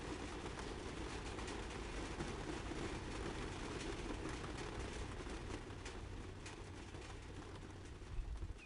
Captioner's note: rain sounds